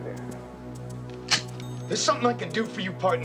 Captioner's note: gun clicks